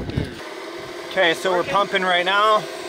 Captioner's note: running water